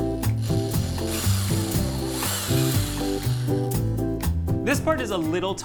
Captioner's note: electric drilling